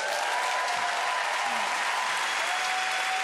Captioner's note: applause